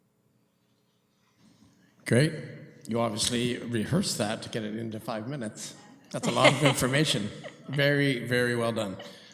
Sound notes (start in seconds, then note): 6.1 laughter